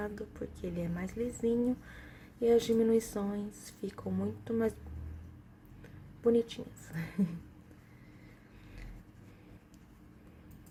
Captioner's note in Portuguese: risos